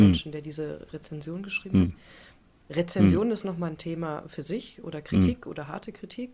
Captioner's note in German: räuspern